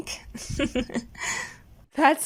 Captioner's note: chuckles